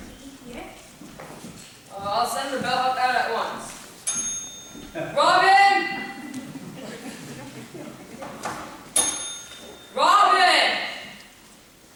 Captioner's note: bell rings